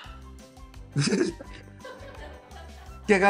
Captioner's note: laughing